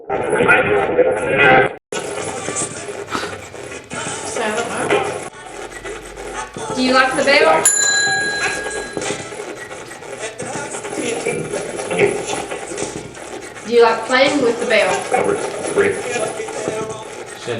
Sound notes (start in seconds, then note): 0.2 radio voice; 7.5 rings; 9.5 radio channel changing